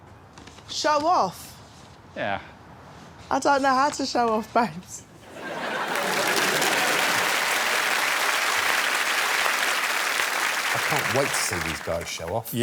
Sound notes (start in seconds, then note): 5.2 applause